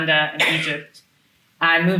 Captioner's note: attendee coughing